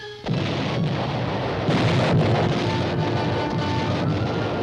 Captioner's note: explosions